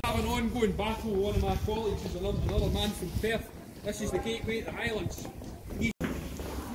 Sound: none

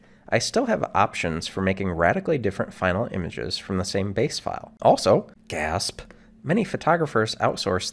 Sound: gasp

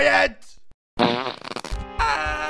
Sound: shocked fart noise

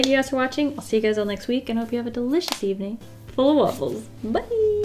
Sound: knuckles crack

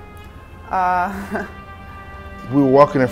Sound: waitress chuckles

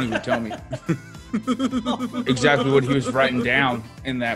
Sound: laugh

